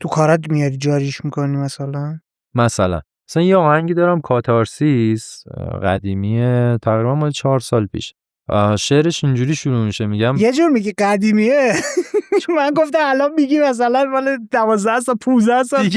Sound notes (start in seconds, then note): 11.7 laughs